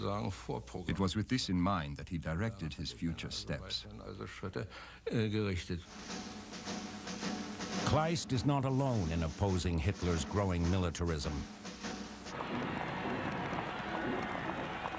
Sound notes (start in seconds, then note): 12.3 cheering